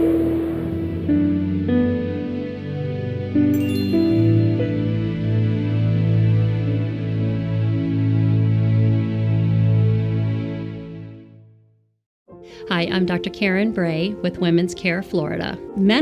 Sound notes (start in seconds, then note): 0.2 calm music; 3.5 twinkle